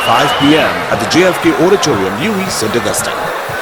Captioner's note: wild applause and cheering for 22 seconds